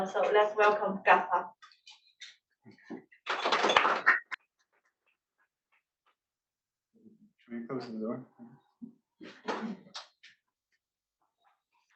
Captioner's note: applause